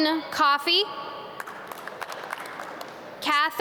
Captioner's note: audience clap